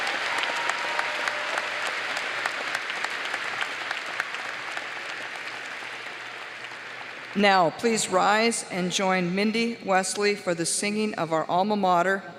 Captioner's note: applause